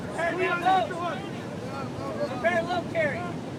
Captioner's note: instructors yell at students